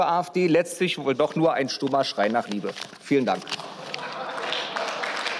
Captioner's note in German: Beifall